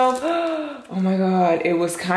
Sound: gasps

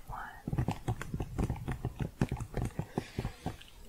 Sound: typing

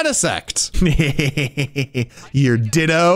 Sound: laughing

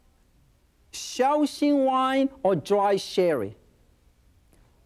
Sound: in foreign language

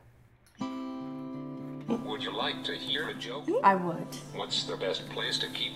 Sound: synthesized male voice

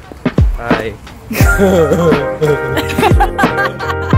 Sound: imitates someone's laugh

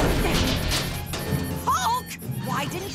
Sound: loud thud; alarms

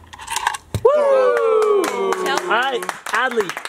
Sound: applause

